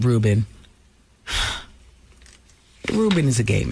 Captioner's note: sigh